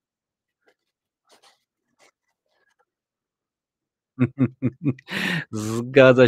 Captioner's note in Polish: śmiech